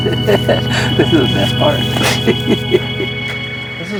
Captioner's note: laughs